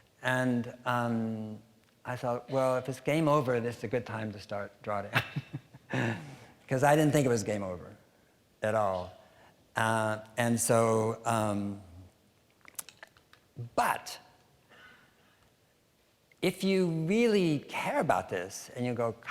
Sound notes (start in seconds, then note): 5.2 laughing